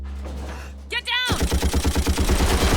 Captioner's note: rapid gunfire